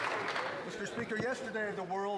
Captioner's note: some Applause